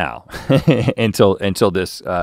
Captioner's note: chuckles